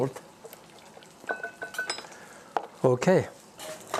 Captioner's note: glass clinking softly